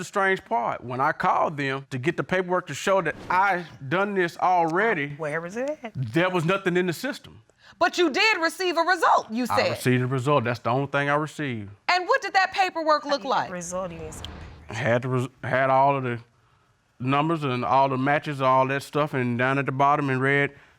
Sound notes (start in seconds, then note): 13.2 mumbling